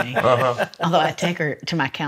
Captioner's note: laughs